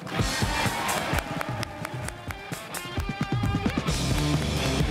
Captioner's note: crowd cheering and applauding